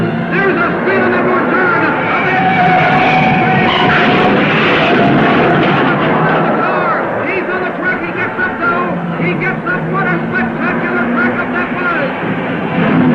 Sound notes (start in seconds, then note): 2.4 tires squealing; 4.7 car crashing; 12.9 cars revving; 12.9 dramatic music